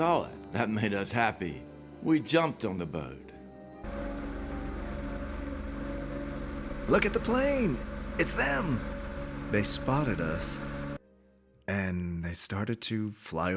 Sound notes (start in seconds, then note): 3.8 airplane engine whirring